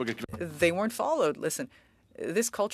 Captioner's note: speaking French